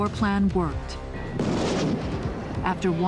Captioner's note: cannon fire